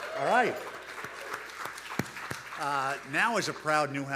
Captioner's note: audience applauding